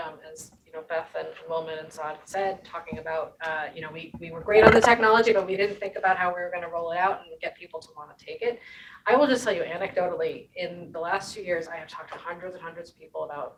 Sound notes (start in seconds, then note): 4.5 object clatters